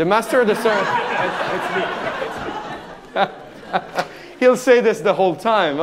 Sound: audience laughing

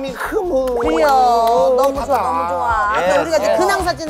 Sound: clapping in agreement

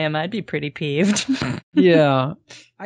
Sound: laughs

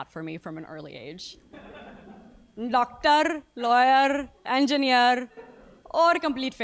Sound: laugh

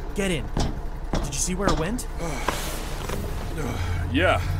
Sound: catching his breath

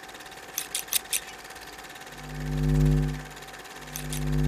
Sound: machine whirring; scissors snipping

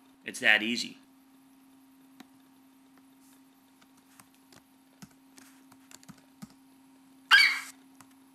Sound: FlightCheck eagle screeches

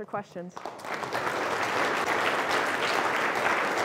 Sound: applause

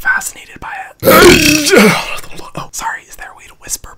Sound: Hyram burps

